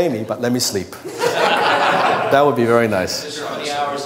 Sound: laughter

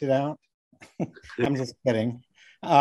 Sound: laughing

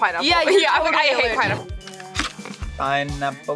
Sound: laughs

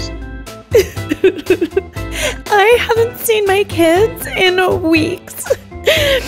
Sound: sobbing

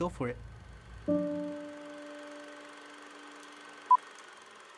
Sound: film clicking

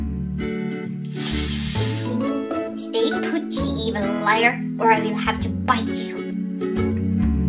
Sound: hiss

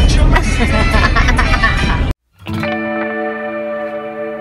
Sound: woman laughing

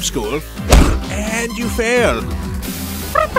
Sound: thud

